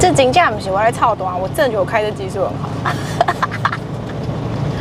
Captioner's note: guilty laugh